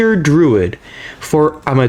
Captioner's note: inhales Oxygen